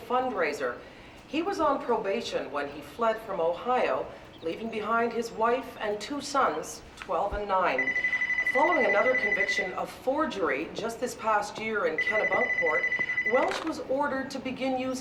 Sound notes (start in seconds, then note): 7.5 telephone rings